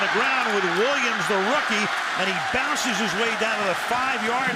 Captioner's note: chuckles